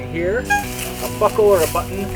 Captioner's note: honk